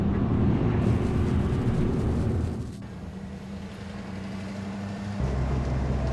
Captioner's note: vehicle rumbling; dramatic music continues